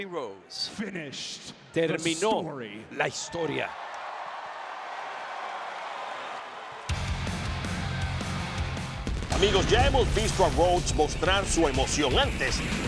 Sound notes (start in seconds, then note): 3.8 applause